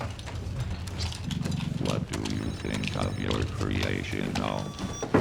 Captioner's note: beeping